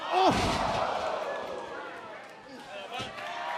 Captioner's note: crowd cheering